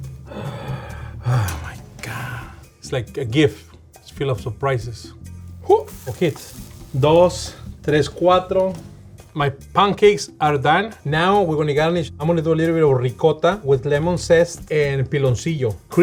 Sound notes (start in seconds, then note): 0.0 gasping; 5.7 speaking Spanish